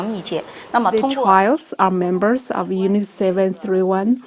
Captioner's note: speaking foreign language